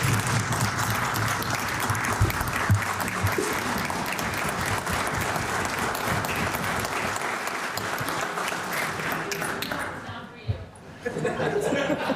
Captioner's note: cheering/Applause